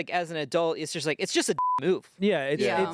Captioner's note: beep